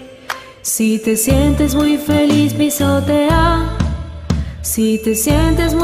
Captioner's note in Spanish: stomp stomp